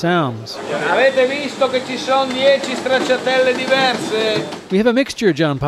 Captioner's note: foreign Language